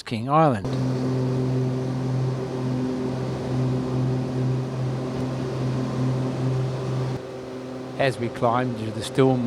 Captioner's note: aircraft sounds